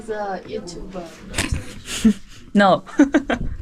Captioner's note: confused